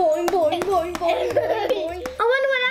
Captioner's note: laughs